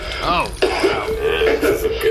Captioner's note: coughs up gas